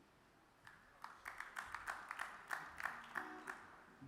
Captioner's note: audience claps